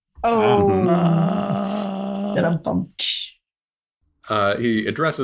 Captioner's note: makes rimshot noise